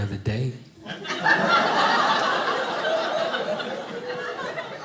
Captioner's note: audience laughing